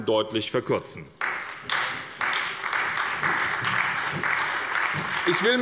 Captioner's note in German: Beifall bei der SPD und bei Abgeordneten der FDP